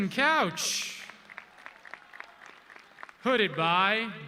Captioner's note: audience clapping